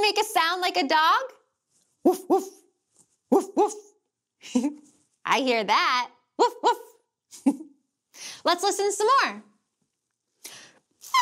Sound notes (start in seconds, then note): 4.5 chuckling; 7.3 chuckling